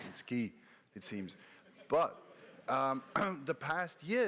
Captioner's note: laughter